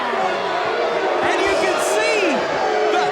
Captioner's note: audience jeers